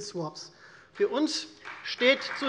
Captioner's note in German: Beifall Freie Demokraten